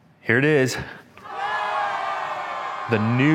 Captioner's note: audience cheering